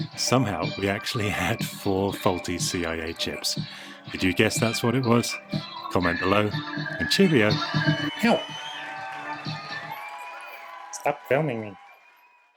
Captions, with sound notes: Somehow, we actually had four faulty CIA chips! Did you guess that's what it was? Comment below And Cheerio! Ow! (dog voice) "Now stop filming me!"